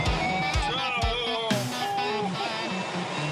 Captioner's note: mumbling under breath